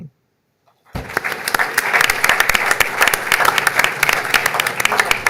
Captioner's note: audience applauding